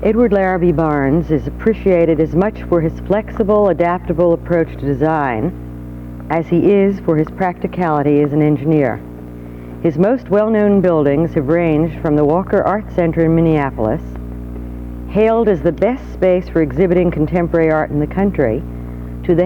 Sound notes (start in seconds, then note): none